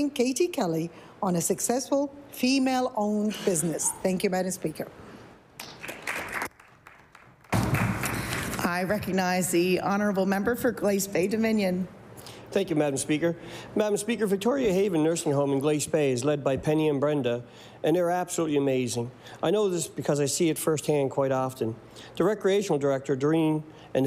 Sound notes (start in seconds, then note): 7.9 applause